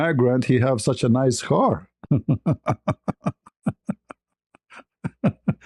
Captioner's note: ketawa